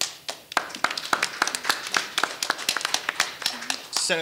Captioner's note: audience applauding